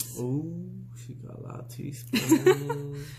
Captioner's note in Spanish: Risas